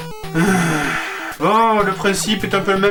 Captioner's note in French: Soupir